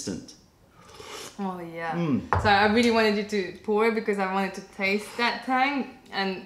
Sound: sips tea

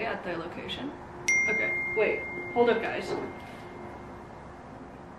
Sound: notification sound

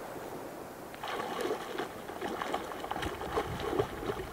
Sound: splashing

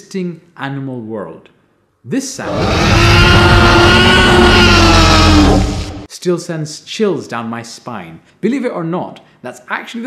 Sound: roar

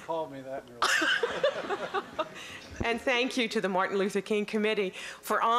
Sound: laughing

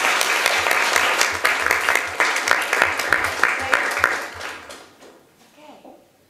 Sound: applause

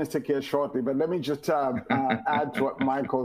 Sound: laughs

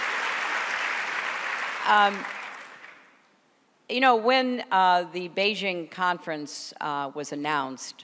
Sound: applause

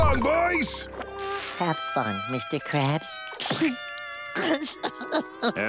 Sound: crying

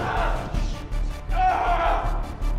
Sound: yelling in agony

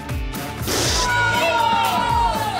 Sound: screaming

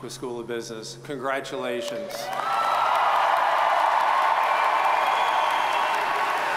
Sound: audience cheers and applauds

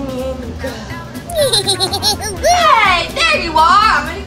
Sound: minion giggling

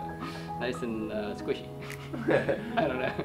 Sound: laughs

